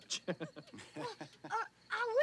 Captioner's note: Edmund chuckles